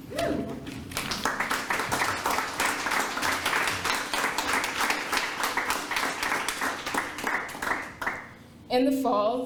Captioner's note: applause